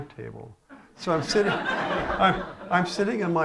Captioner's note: laughter